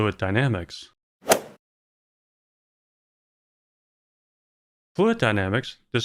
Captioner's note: golf ball hit sound